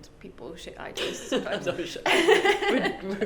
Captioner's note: both laugh